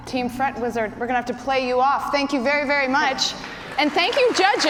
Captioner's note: cheers and applause